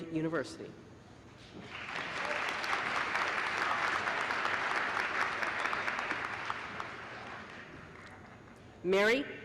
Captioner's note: applause